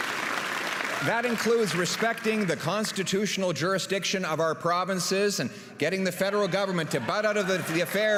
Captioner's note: applause and cheering